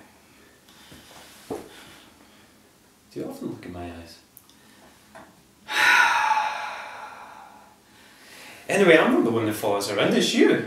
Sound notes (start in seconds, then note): 5.6 sigh